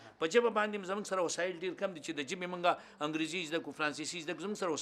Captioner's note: speaks in foreign language